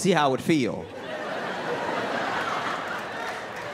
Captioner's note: laughter